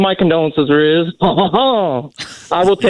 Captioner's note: laughing